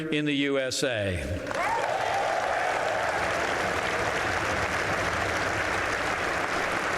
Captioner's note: applause